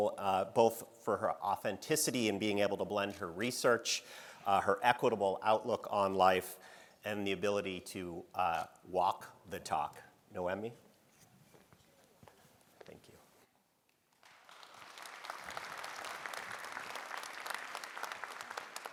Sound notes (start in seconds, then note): 14.1 audience applauding